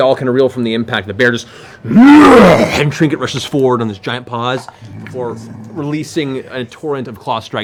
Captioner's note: roars